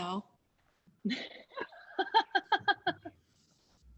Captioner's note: laughing